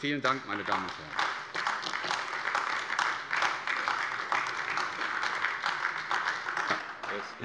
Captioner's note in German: Beifall AfD